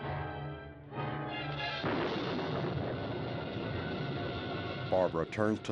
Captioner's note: thunder crashes